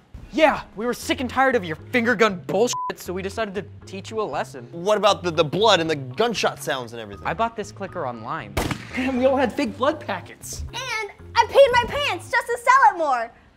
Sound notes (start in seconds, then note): 8.5 gunshot